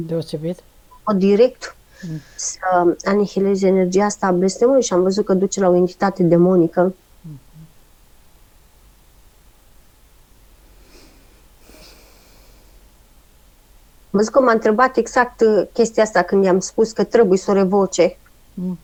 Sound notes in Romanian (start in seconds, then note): 11.6 sforăit